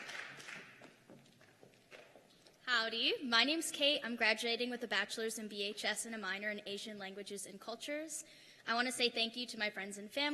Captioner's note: cheers and applause